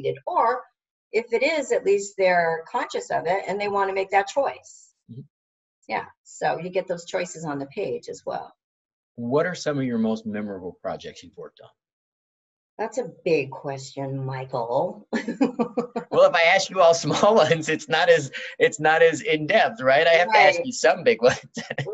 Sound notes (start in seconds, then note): 15.2 chuckles